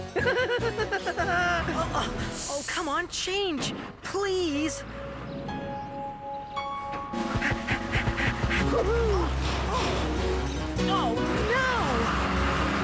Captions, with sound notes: ( laughing ) Oh, come on, change, please. ( Scoop panting as Travis hoots ) Oh. Oh, no.